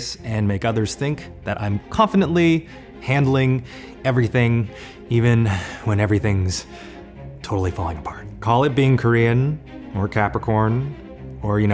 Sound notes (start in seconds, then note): 4.6 heavily breathing; 7.0 sighs